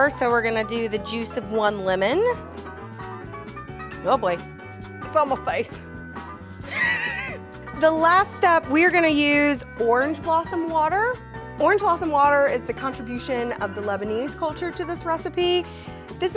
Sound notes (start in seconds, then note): 6.7 laughs